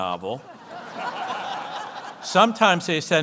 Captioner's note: audience laughs